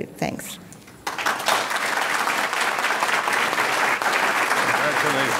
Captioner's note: audience clapping